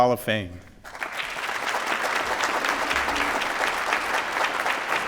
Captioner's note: applause